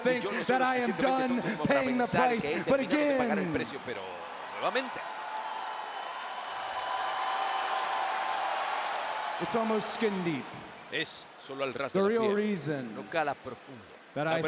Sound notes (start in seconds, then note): 6.0 applause